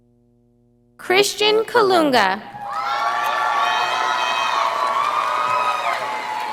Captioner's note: audience applauding